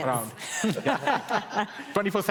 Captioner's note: laughter